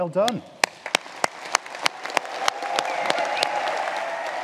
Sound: audience applauding

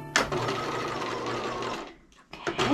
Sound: sewing machine clunking

